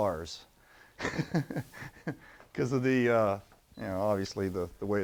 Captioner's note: laughter